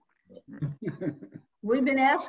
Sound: laughs

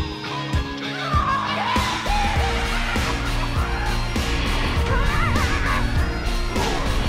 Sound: haunted house creatures cackling

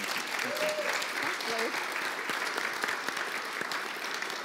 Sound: audience applause

